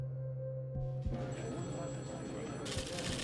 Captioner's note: phones ringing